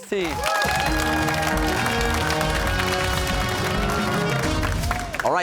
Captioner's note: cheers and applause